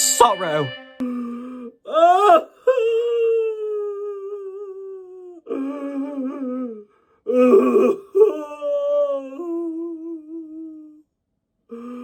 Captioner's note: MOCK-TURTLE cries